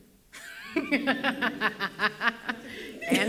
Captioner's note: laughter